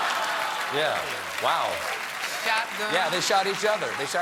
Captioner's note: applause; laughter